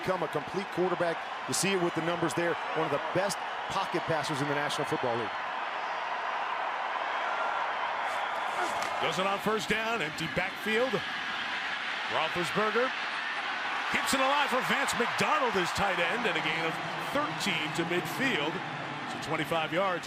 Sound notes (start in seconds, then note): 6.2 cheering